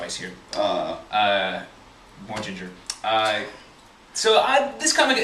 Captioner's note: laughs and shakes head